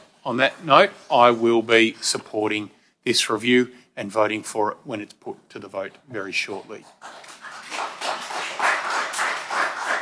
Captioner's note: applause